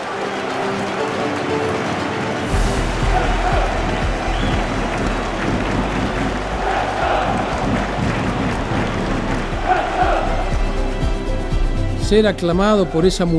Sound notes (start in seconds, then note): 0.1 crowd cheering; 2.9 Crowd chanting: "Wrexham! Wrexham! Wrexham!"; 11.9 in Spanish